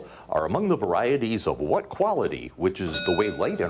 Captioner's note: bell dinging